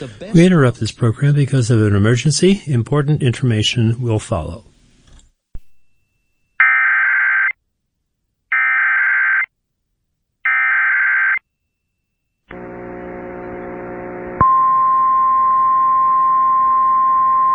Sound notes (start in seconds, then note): 6.6 SAME header tones; 14.3 1050 HZ tone